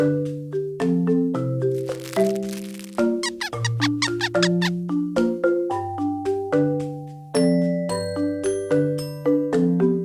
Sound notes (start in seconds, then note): 1.6 crinkling; 1.7 squeaking